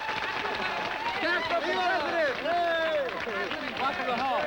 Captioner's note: crowd continues eering